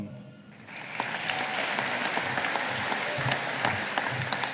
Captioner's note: audience applauding